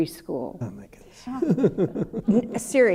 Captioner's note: laughter